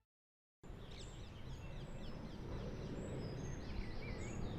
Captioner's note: birds chirping